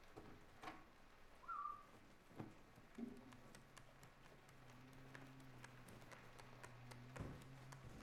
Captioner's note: soft whistle